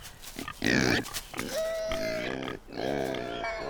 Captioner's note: pigs squeal